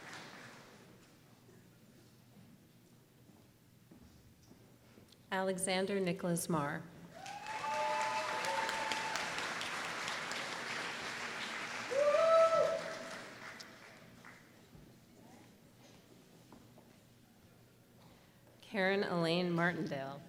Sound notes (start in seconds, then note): 0.0 applause; 7.1 applause